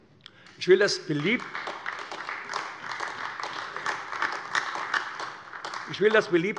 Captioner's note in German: Beifall AfD